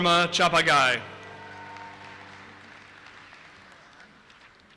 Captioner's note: audience applauses